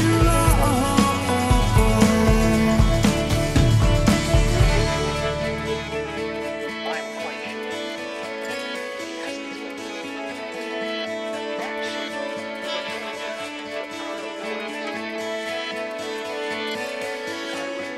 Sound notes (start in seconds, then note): 7.4 soft backwards voices